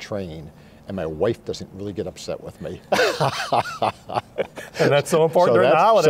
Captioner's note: laughs